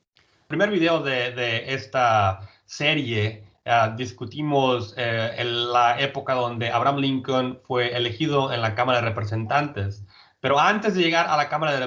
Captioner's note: speaking in Spanish